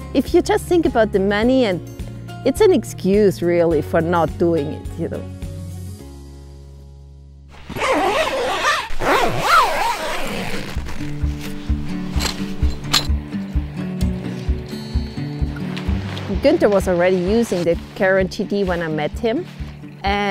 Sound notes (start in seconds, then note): 7.5 zip rasping; 11.6 upbeat music